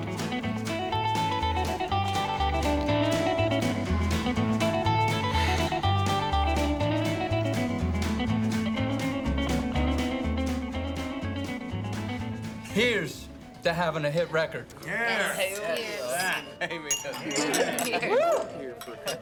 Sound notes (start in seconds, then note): 5.1 sighs